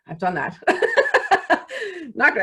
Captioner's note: laughs